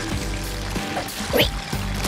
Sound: squeaking

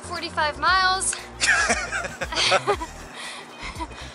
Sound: laughter

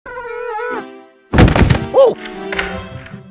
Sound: door noise

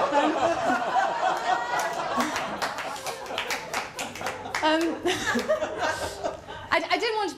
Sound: laughter & applause

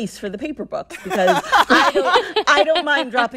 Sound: laughter

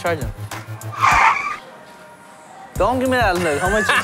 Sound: tires squeal

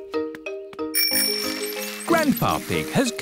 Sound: bell rings

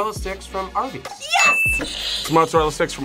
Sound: bell rings; buzzer rings

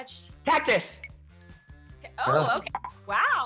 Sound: bell dings

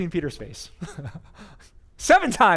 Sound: pastor: Laughter

